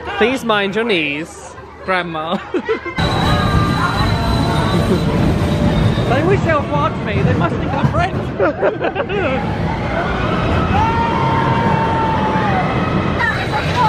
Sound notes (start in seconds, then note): 8.3 laughter; 9.8 screaming